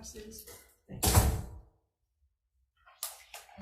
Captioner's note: door thuds